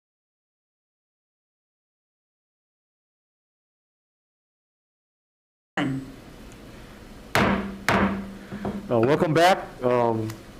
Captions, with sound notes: (Chair hits gavel) Oh, welcome back.